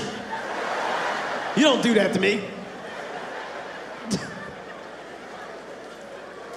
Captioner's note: audience laughing